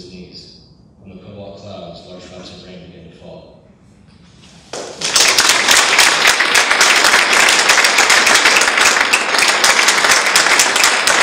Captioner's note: audience claps